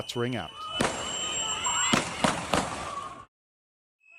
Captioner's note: gunfire